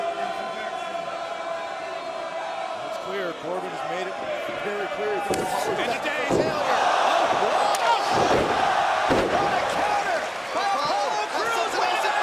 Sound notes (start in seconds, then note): 8.2 crowd cheering